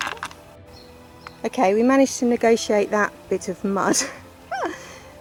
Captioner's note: laughing